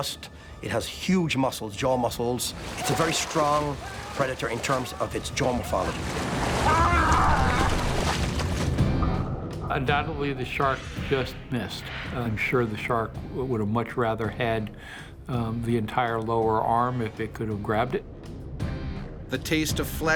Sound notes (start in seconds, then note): 6.1 screaming; 19.0 voiceover